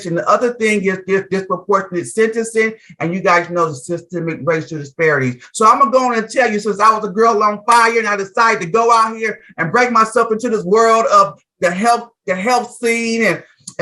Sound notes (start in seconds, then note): none